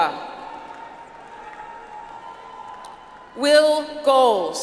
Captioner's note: audience applauds